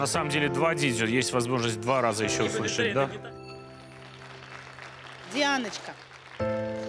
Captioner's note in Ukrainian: оплески